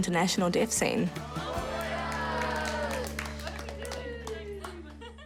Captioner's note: applause